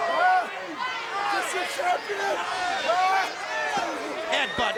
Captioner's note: crowd cheering